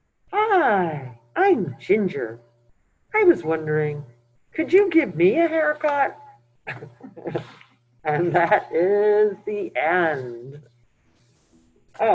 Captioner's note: laughs